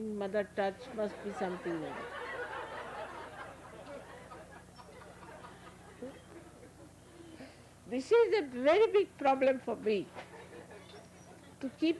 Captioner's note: laughter